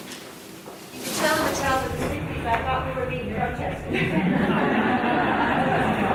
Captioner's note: woman speaking faintly amidst echo; audience laughing